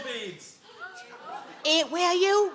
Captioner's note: audience gasp